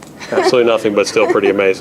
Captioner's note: laughs